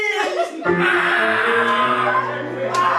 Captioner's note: screaming